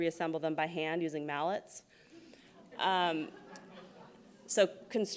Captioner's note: laughs